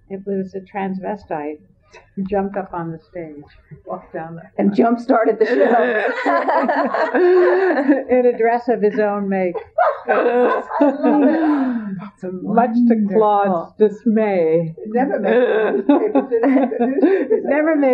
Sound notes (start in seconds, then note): 9.5 laughter